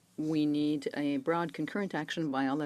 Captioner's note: speaking French